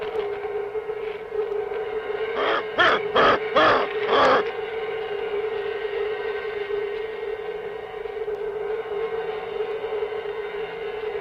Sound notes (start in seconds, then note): 2.4 grunting